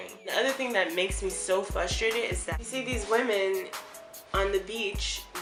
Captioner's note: Italian